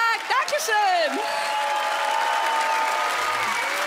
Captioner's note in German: Applaus, Jubel, Pfiffe